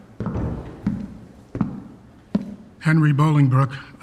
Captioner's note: footsteps